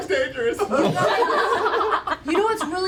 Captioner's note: laughter